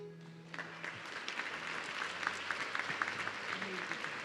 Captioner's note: audience clapping